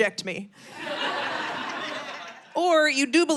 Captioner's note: audience laughing